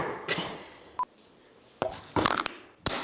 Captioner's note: monitor beeping; piece thumping